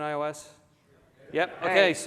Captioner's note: audience concurs